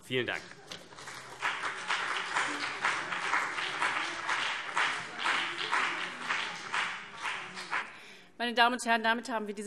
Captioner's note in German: Beifall CDU und BÜNDNIS 90/DIE GRÜNEN